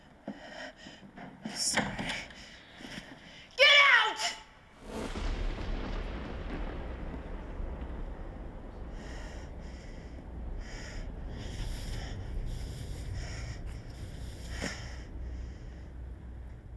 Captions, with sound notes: I'm sorry. Get out. (thunder booming) (tense music)